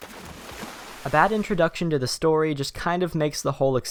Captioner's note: voiceover